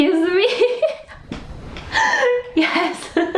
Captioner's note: laughing